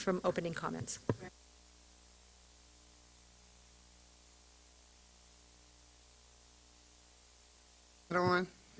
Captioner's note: silence